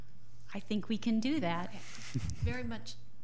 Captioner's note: laughing